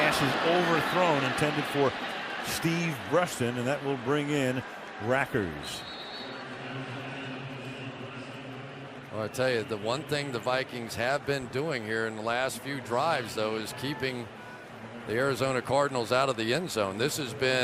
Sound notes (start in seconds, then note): 5.8 whistle